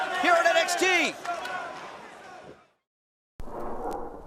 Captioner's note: crowd cheering